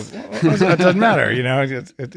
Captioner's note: laughing